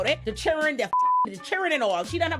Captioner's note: beep